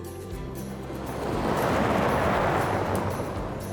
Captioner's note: engine purring